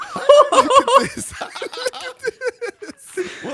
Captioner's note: EVERYONE laughs; laughs